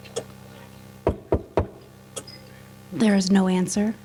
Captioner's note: knocking